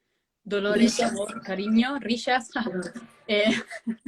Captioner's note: laughs